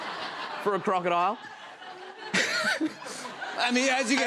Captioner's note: laughter